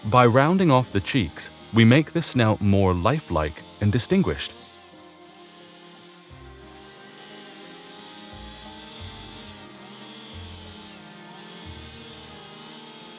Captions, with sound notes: By rounding off the cheeks, we make the snout more life-like and distinguished. (chainsaw roaring) (gentle music continues)